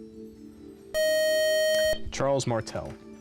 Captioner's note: time-out buzzer